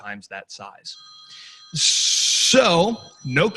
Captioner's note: cell phone ringing